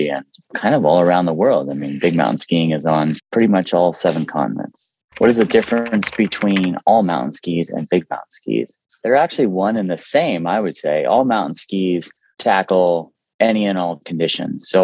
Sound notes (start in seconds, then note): 5.1 keyboard clicking